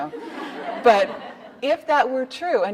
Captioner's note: audience laughing